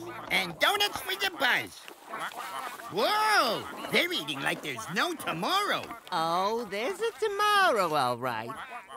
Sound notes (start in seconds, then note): 1.7 ducks quacking